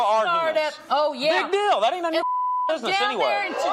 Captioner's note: beeps